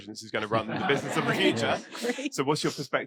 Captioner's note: audience laughing